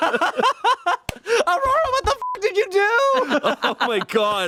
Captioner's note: everyone laughs; beep